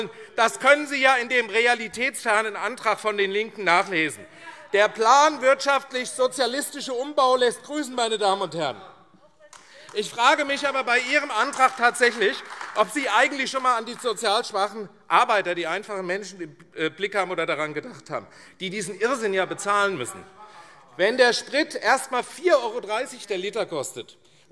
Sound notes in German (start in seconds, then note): 9.4 Beifall AfD